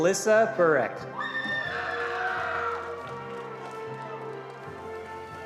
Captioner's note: attendees applauding